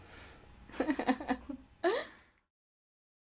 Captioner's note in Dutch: en interviewer lachen